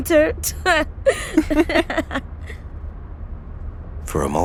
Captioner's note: laughing